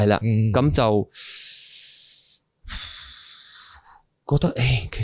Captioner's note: deep breath